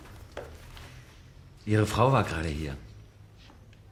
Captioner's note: in German